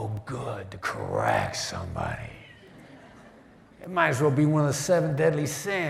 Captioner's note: laughter